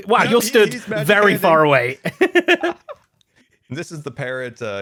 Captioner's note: laughs